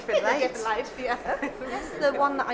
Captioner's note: laughing